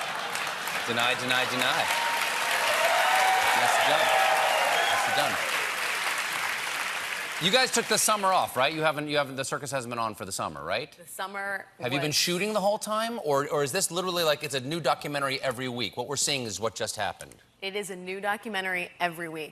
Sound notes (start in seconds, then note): 4.6 cheers and applause